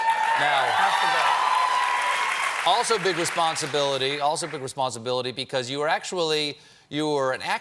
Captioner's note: cheers and applause